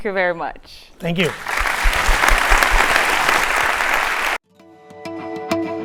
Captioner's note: applause; upbeat instrumental music